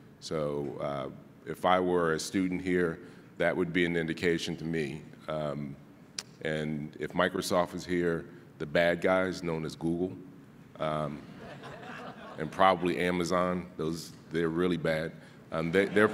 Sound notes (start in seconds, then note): 11.2 audience laughing